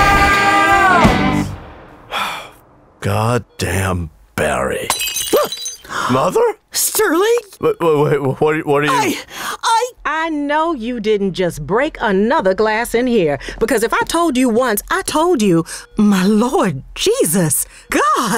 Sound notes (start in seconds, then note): 2.1 gasps; 4.8 glass shatters; 4.9 yells; 6.7 gasps; 15.2 gasps